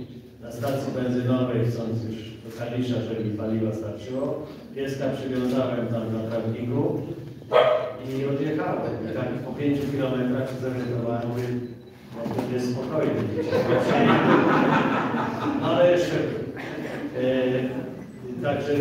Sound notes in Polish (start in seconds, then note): 7.4 szczeknięcie psa na sali; 16.3 Śmiech z sali